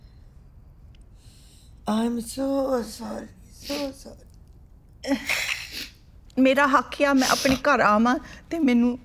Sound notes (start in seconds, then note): 3.6 sniffling and sobbing; 6.5 speaks Punjabi